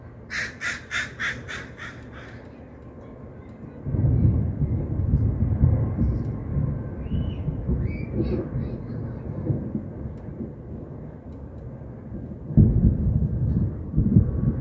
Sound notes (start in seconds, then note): 0.2 crow cawing repeatedly; 3.7 very deep thunder and train in the background